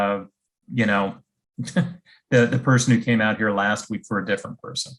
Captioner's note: chuckles